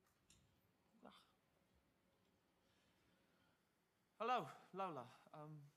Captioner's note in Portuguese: grunts softly